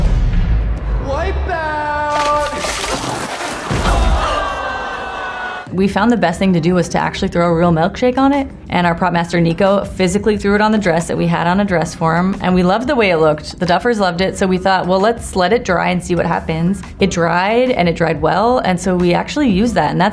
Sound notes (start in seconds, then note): 2.1 milkshake splashing; 2.2 Eleven thudding; 3.1 crowd